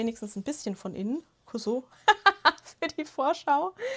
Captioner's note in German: Gelächter